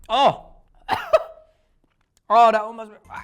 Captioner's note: coughing